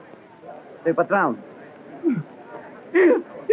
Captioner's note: speaking portuguese